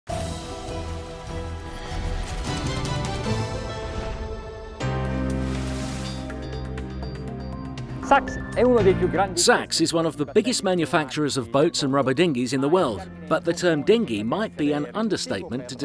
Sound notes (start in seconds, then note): 0.0 upbeat news music; 4.9 mysterious music; 8.3 foreign language